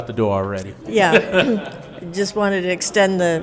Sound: laughs

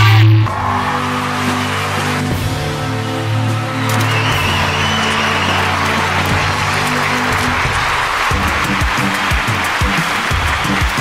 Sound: scream and applause

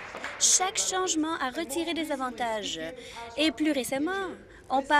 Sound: applause

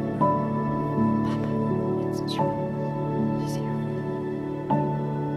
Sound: Celine whispers

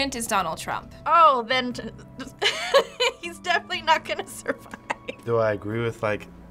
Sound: cracking up

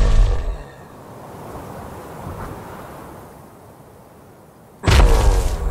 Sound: whooshing noises

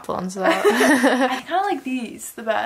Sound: laugh

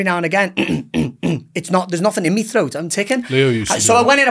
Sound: clears throat

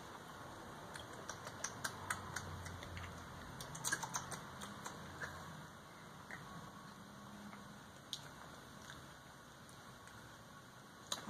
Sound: tasting noises

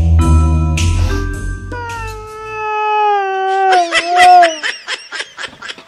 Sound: crying

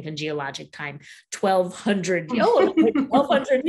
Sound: laughing

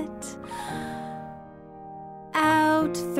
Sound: inhaling

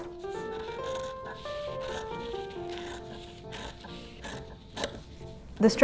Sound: scissors grating; classical music

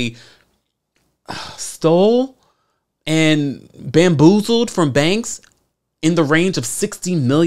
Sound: sigh

